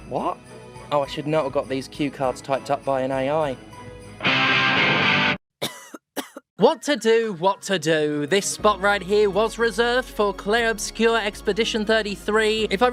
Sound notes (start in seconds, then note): 5.6 cough